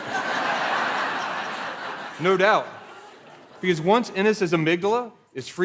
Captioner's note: laughter